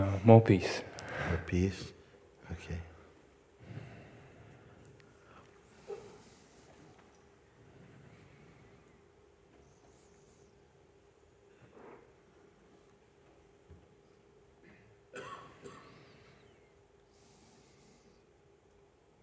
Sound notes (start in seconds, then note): 4.0 lange Stille